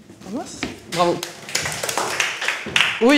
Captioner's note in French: applaudissement